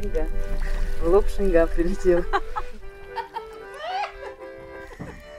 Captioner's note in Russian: смех